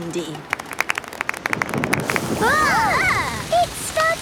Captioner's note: exclamations; thunder